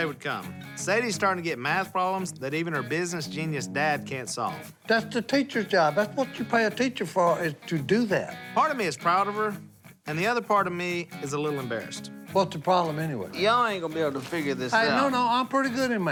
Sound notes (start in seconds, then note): none